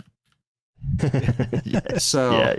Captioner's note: laughter